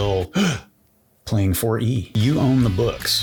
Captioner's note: gasp